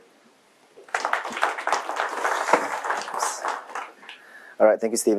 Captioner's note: applause